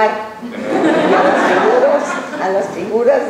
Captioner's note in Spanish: laughs